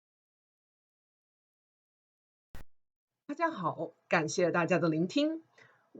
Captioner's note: speaks in Mandarin